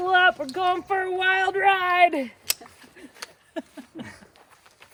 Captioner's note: laughs